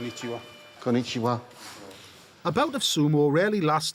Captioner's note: Dave and Si speaking Japanese